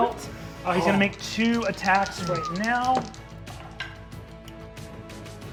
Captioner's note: dice rolling